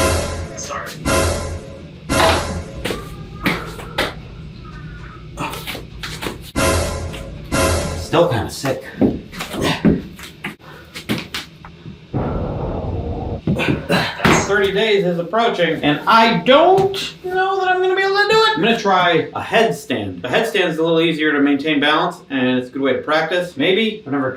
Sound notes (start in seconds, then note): 0.0 dramatic music; 6.5 dramatic music; 12.0 wind howling